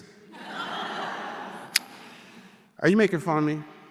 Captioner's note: audience laughing